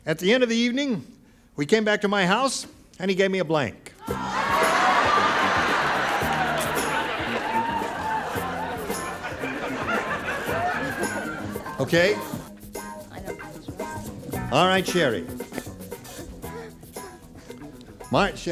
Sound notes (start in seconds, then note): 4.1 laughter; 7.8 upbeat music